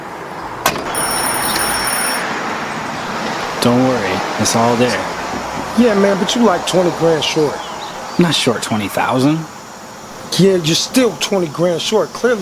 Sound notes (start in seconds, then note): 0.8 doorbell rings